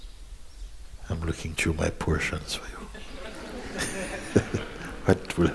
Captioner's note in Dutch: gelach